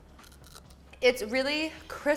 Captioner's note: green bean crunches